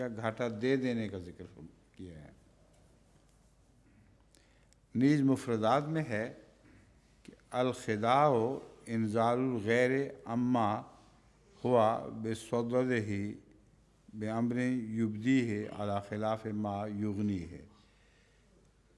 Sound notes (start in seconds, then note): 7.4 Arabic